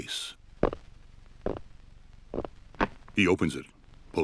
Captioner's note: fingers tapping